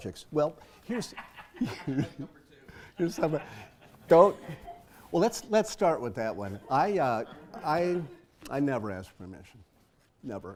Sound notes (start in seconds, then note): 0.9 laugh